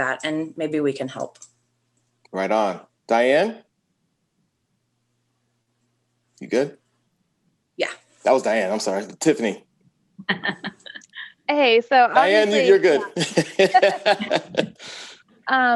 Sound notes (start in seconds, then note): 10.2 laughs